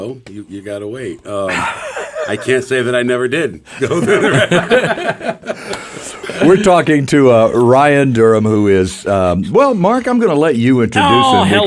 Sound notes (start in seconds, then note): 3.8 everyone laughs